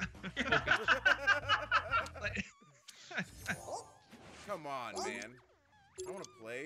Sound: laugh

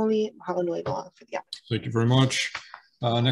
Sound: in foreign language

